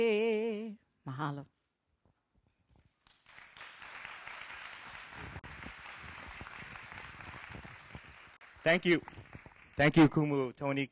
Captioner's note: applause